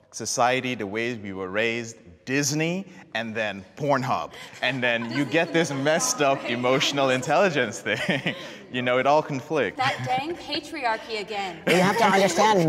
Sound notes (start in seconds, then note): 8.2 laughing; 10.9 panelists laughing